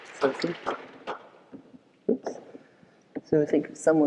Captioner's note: audience applause